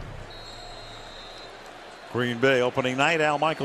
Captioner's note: whistles